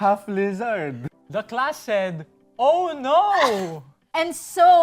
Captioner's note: chuckling